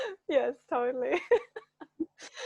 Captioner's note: laughs